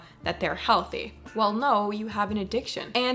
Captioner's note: none